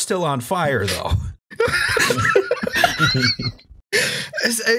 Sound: laughter

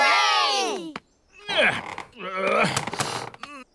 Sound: grunts

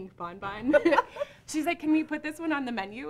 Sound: laughs

